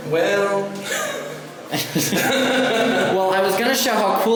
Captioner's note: laughing